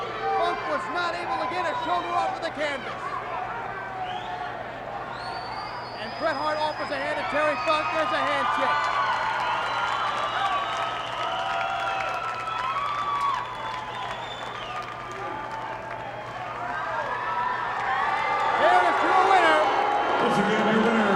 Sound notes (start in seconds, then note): 8.8 applause